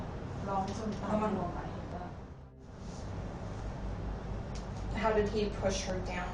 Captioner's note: speaks in foreign language